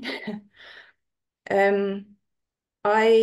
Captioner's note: laughs